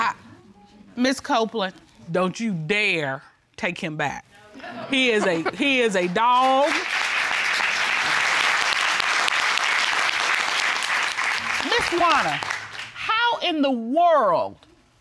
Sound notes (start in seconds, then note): 5.0 chuckling